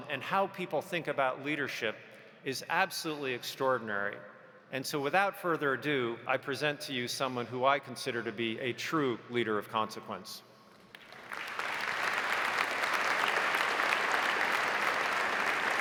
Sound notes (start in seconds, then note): 10.9 audience applauding